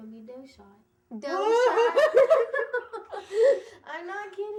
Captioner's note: laughing